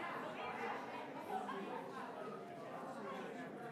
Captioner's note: crowd chattering